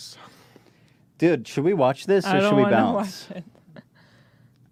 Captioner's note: laughs